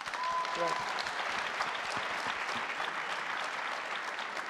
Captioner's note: crowd applauding